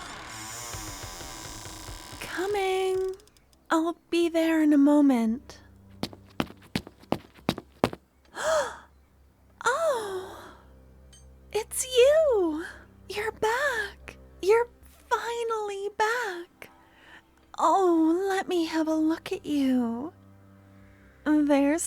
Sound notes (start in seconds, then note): 8.2 gasp!